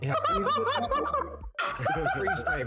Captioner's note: laughing